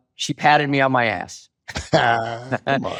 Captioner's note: both chuckle